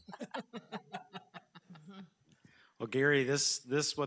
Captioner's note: board laughing